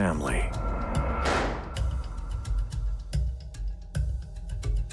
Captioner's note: gun firing; uneasy music